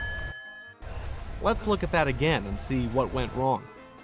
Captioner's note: bell dings